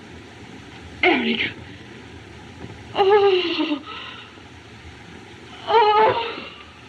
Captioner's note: shudders